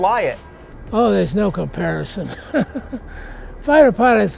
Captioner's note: laughs